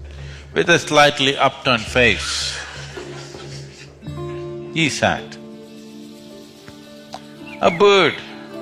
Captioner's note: laughter